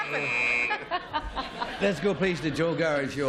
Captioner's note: buzz